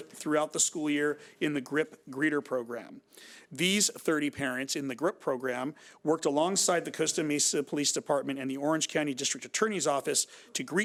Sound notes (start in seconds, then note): none